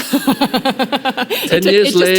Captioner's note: laughing